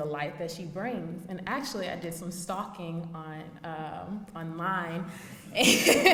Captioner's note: laughs